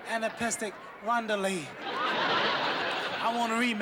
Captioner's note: laughter